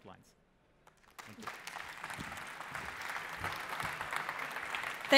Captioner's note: applause